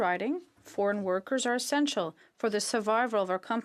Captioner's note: speaking French